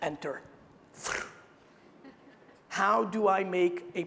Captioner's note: air whooshing